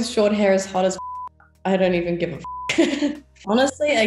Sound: laughs

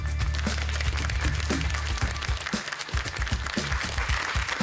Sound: applause

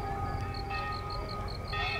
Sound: bells Ringing

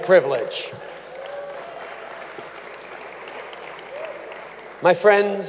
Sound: applause

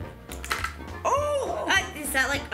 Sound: plastic clicking against plastic

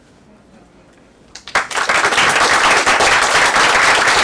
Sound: applause

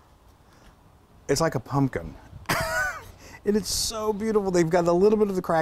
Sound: laugh

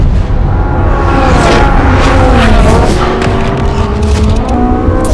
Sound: dramatic music; cars whooshing

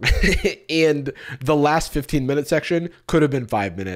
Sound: laughs

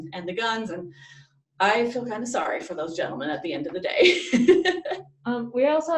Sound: laughs

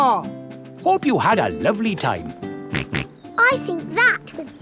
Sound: snorts

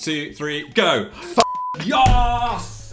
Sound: beep

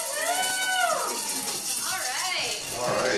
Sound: cheering

